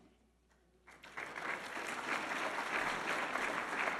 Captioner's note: audience applauding